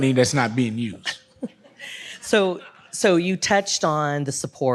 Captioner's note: audience laughs